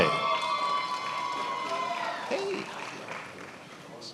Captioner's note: attendees applauding